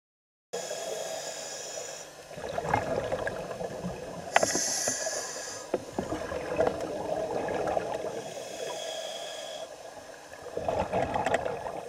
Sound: scuba dive breathing and gurgling water

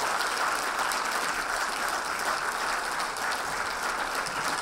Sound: audience applauding

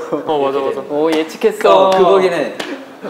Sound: laughing

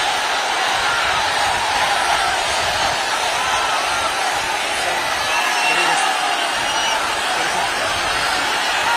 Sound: applause

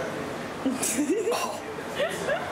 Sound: laughing

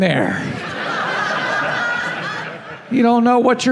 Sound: laughing

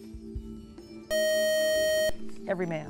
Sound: buzzer

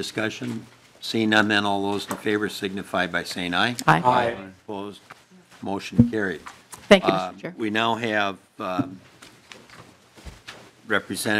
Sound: chorus of ayes

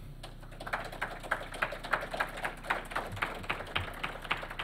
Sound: attendees applauding

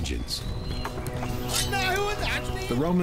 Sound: non-english speech

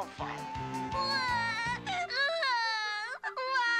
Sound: crying

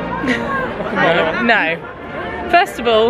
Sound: laughs

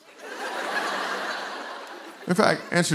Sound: laughter

